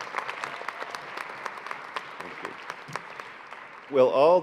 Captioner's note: applause